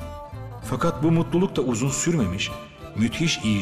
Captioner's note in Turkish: Ahmet dış ses